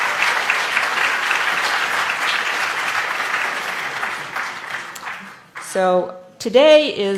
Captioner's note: applause